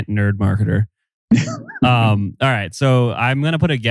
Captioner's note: laughs